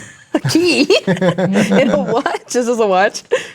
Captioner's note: laughing